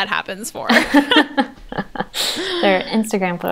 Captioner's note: they laugh